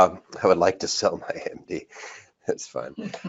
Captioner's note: laughs